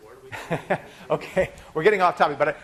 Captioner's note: laughing